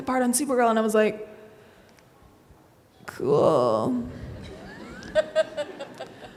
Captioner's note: everyone laughs